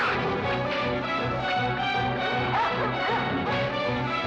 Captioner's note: barking